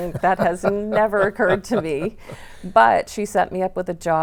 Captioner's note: laughing